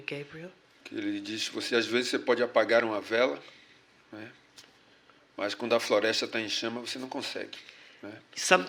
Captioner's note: speaking portuguese